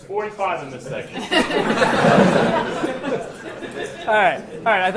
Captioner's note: laughter